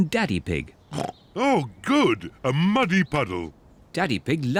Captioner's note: snorts